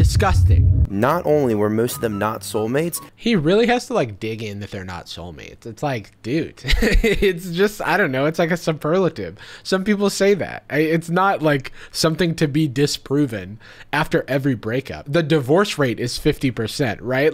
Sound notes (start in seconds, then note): 6.5 laughs